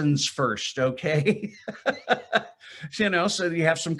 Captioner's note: chuckling